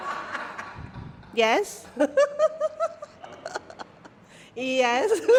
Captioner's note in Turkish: kahkaha